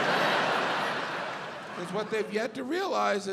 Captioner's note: audience laughs